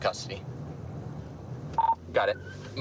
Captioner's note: radio beeps